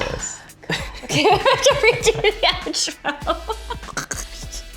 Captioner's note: laughs